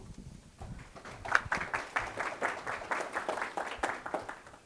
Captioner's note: applause